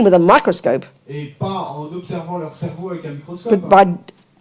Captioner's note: audience member speaks in French